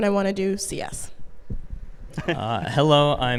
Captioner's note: می خندد